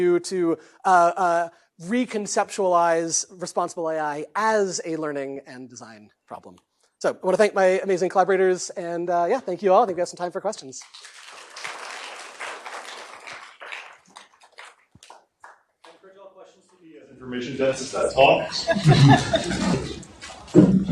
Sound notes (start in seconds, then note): 10.8 applause; 18.4 laughter